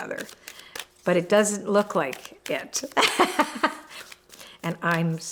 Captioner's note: laughs